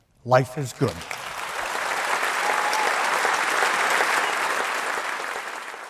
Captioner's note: audience applauding